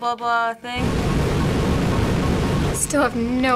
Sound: beam roaring

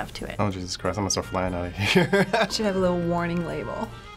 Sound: chuckle

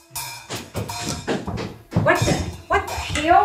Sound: Caleb thudding

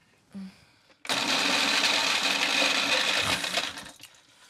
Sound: blender whirring

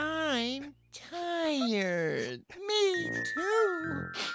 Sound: sniffling

